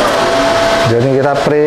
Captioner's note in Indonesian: suara mesin printer